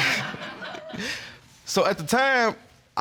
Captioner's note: laughter